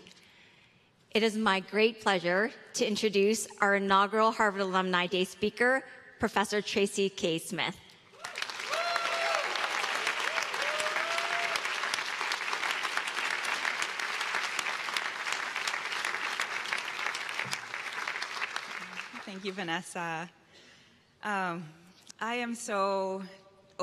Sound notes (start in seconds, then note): 17.8 cheers and applause